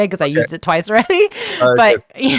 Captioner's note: laughs